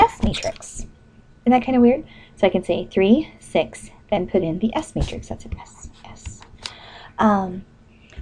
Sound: whispering to self

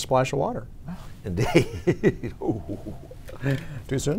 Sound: laughs

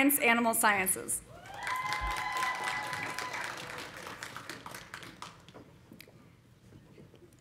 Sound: audience cheering; audience applauding

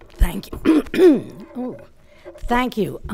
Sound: coughs

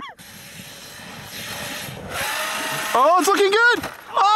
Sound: laughing; RC truck wheels spinning

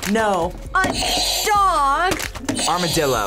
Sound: buzzer rings

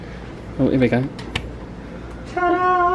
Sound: air con humming continues; light switch clicks

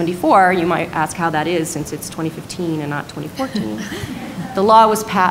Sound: laughter

